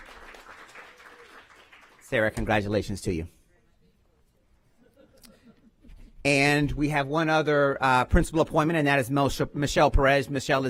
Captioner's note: applause